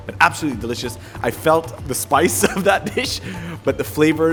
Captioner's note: chuckles